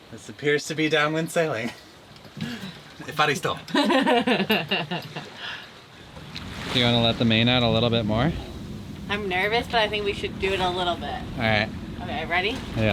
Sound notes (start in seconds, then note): 3.6 chuckles